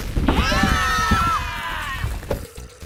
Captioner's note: screaming